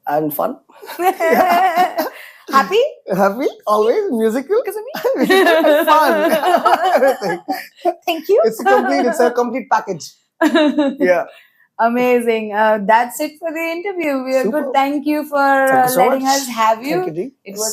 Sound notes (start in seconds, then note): 0.8 laughs; 4.9 laughs